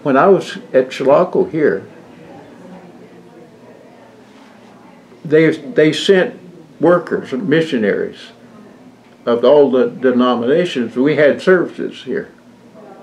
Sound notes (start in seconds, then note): none